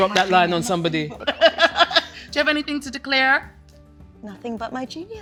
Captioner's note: laughs